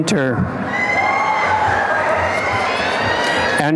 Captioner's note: applause and cheering